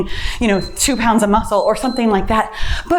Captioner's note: timer beeps